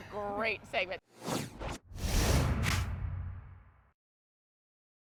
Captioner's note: air whooshing